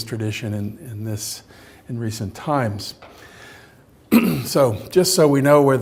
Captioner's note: clears throat